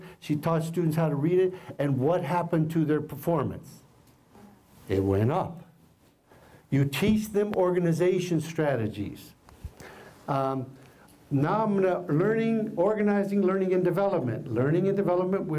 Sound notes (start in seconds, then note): none